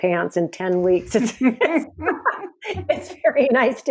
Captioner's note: both laugh